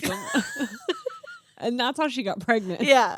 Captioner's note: laughing